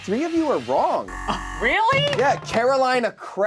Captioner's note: buzzer buzzes